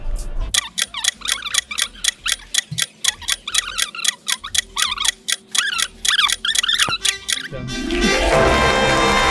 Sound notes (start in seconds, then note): 0.5 clock ticking